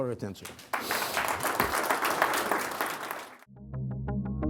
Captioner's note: applause